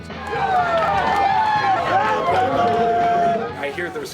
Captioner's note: cheering